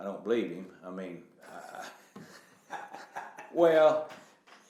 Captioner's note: laughing